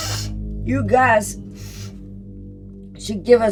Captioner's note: sniffs